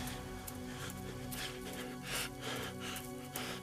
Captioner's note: light panting